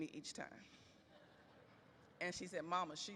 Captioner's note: audience laughs